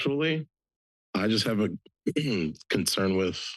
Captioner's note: clears throat